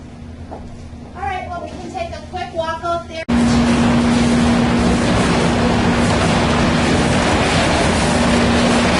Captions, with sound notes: All right, well we can take a quick walk out there. (loud engines running)